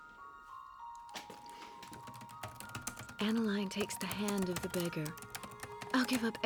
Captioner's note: typing resumes